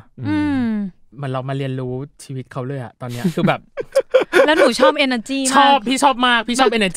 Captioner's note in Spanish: Risas